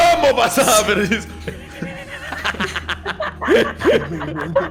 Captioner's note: everyone laughs